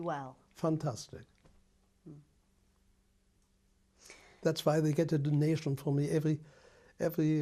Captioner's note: pauses for 3 seconds